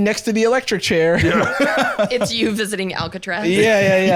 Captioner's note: laughing